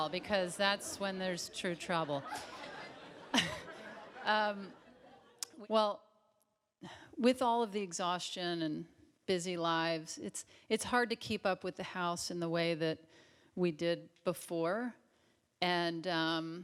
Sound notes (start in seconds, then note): 2.1 Tig chuckles